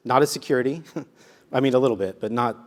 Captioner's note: laugh